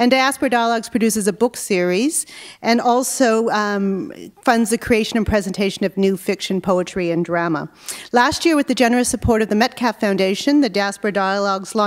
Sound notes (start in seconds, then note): none